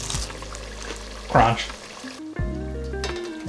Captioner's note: cronch